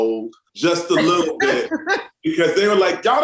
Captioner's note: laughs